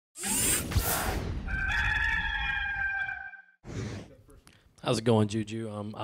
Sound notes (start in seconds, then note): 0.6 metallic whirring; 1.4 rooster crowing